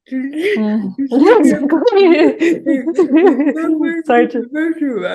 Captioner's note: both chuckling and speaking